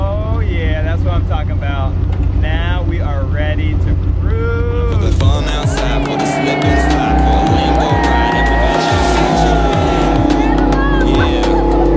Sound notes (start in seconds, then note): 5.3 upbeat music; 8.4 engine revs